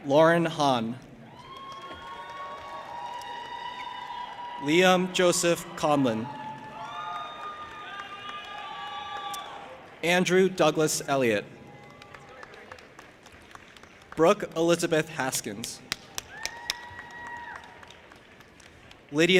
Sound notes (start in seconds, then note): 1.9 audience applauding and cheering; 6.7 audience applauding and cheering; 11.6 audience applauding; 15.9 audience applauding and cheering